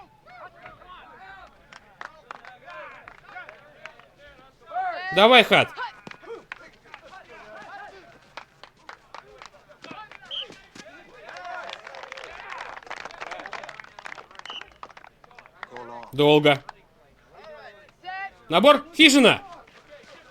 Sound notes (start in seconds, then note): 0.1 chatter; 7.4 chatter; 10.2 whistle blows; 11.8 applause; 14.4 whistle blows